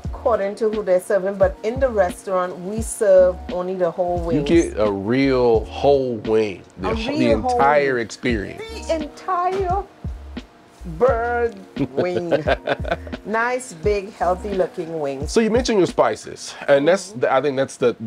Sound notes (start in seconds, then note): 11.8 chuckles